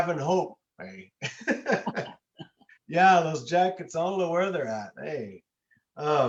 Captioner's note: laughter